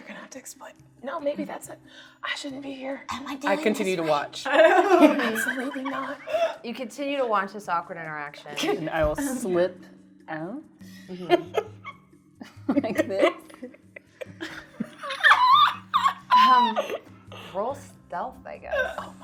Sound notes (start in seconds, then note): 4.4 laughing; 10.6 laughing; 14.0 laughing